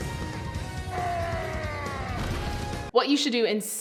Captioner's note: screaming